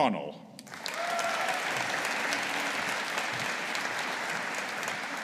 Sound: audience applauding

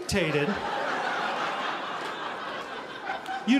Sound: audience laughing

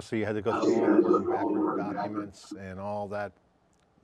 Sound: voice distortion noise drowns out other sounds

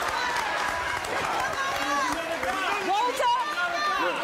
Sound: applause

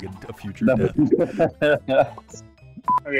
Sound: laughter

